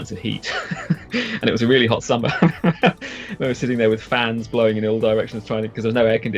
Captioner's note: laughs